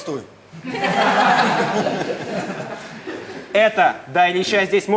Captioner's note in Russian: Смех